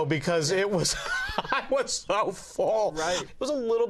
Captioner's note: laughing